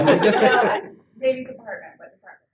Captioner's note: laugh